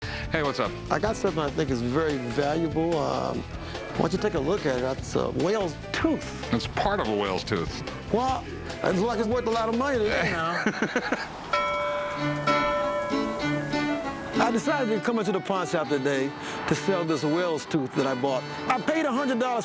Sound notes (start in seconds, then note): 10.2 laughs; 11.5 ding